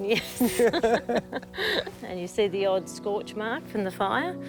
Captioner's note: both laugh